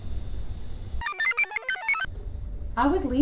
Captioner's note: computer chirps